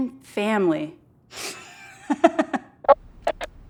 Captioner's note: laughs